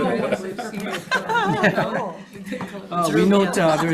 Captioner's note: people laugh